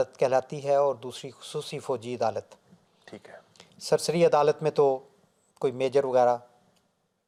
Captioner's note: Arabic